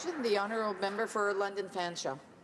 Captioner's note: some Applause